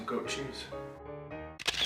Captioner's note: camera shutter